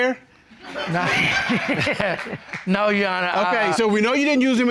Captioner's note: chuckles